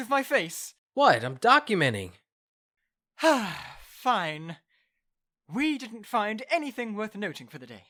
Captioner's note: sigh